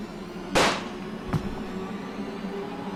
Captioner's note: gunshot!